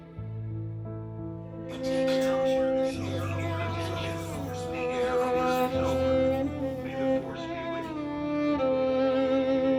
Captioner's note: overlapping air raid warnings